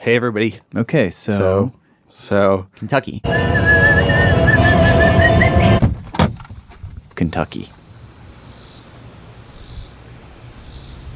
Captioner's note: car door opens